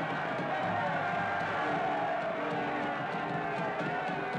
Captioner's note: cheering